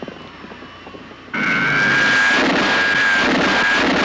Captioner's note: zooming